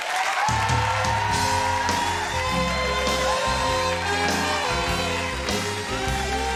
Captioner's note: audience applauding; audience cheering; upbeat music